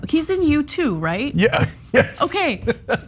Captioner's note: laugh